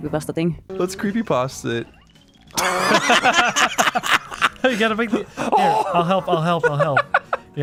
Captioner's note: laughing